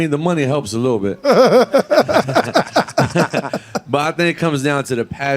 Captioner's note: laughing